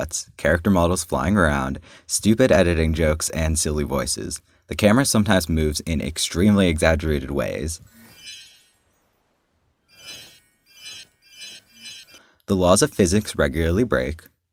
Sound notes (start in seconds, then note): 7.9 cartoon sparkle SFX